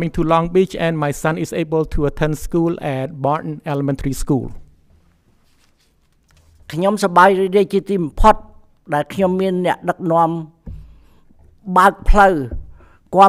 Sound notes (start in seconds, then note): 6.3 speaks in Khmer language